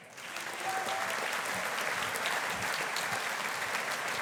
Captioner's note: audience applauding